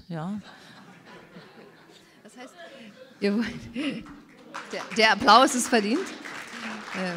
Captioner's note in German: Applaus und Gelächter im Publikum